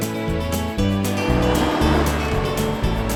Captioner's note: atv rumbling; wind rustling